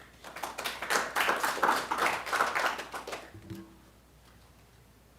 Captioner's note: applause